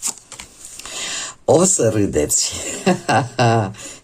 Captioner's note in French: Rires